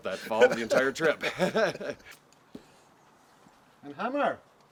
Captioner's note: laughing